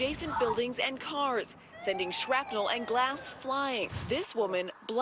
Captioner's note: explosion